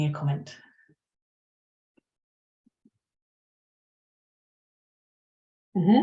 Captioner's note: silence